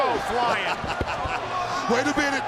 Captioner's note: Booker laughs